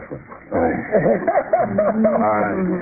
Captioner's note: laughter